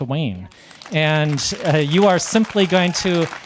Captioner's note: audience applauding